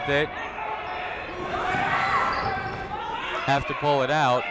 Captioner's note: people shouting in the crowd